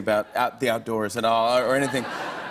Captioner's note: laughter